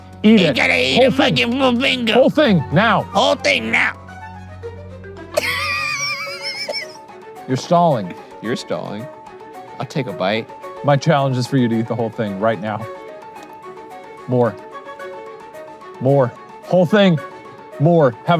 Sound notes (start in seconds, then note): 5.3 laughing